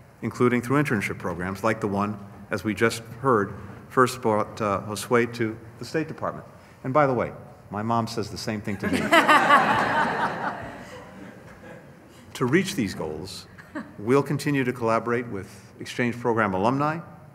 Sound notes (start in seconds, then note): 10.6 laughter